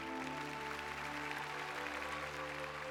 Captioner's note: applause